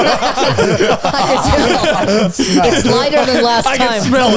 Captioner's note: all laughing